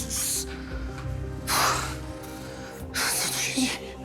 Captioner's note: snorts